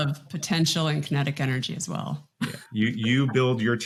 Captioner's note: chuckles